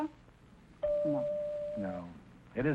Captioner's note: chime ringing